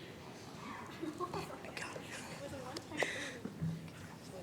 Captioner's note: chatter